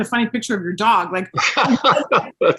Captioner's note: laughing